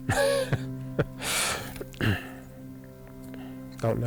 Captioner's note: laughs